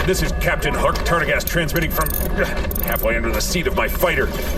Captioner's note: intermission music interrupted by static; grunt of exertion, sound of tools being used